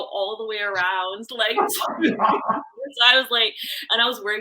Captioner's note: laughing